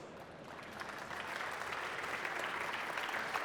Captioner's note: applause